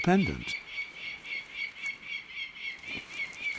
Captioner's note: falcon calling